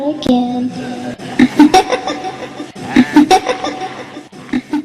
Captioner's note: evil Laughing